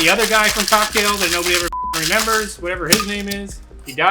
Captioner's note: beep